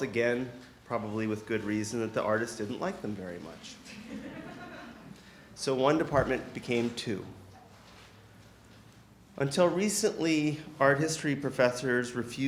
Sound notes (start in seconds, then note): 3.8 audience chuckling